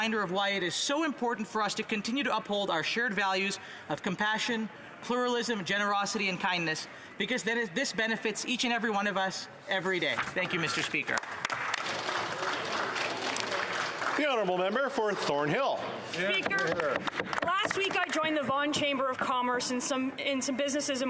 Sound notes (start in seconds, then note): 18.0 applause